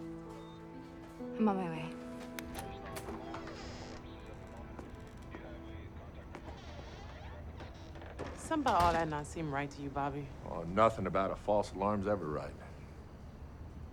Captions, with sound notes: (gentle tense music) I'm on my way. (door latch clicks) (hinges squeaking) - Something about all that not seem right to you, Bobby? - Oh, nothing about a false alarm's ever right.